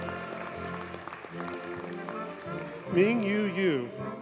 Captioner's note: audience cheers and applauds